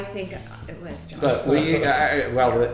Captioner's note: laughing